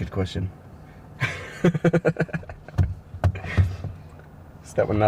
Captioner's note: laughing